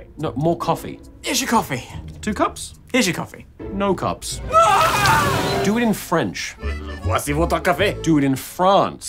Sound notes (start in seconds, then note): 1.1 straining; 4.4 pained screaming; 4.8 sizzling